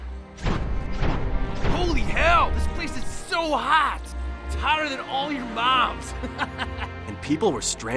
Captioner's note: laughs